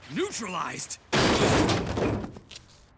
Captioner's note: groans; thuds